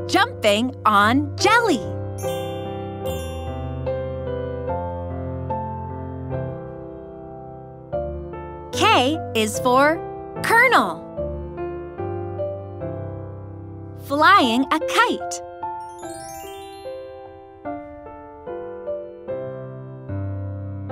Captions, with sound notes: Jumping on jelly. (bell chimes) K is for kernel. Flying a kite. (bell chimes)